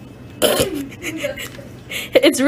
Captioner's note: laughs